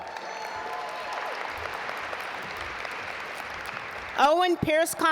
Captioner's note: audience applaud